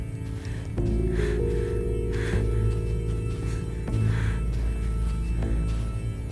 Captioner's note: footsteps pattering; Quinn panting